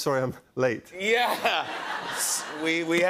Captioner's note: laughter